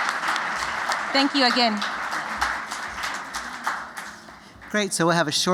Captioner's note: applause